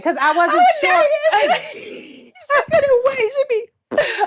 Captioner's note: laughs